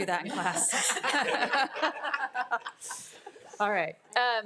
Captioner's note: attendees laughing